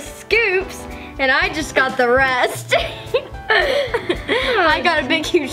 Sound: both laugh

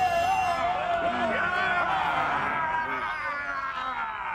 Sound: yelling; all yelling halfheartedly; yelling

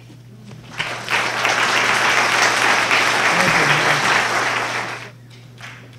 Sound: applause

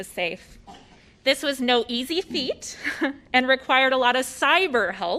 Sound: laughter

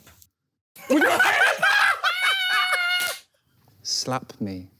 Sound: laughing

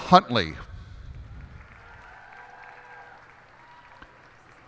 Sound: cheers and applause

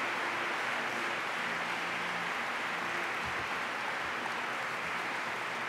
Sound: applause

